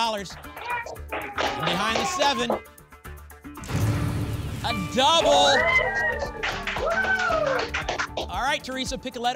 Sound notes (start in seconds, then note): 0.3 applause; 5.1 applause and cheering